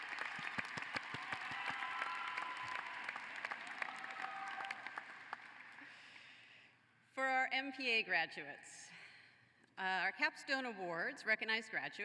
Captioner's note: applause